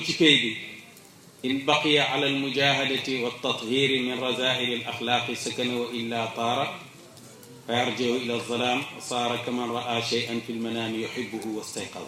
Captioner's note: quote in Arabic